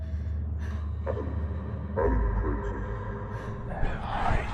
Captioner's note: ghostly Voice